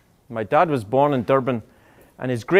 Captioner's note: none